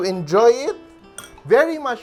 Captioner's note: clink